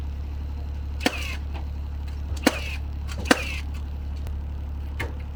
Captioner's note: tool sputtering